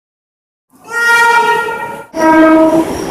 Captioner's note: air Horn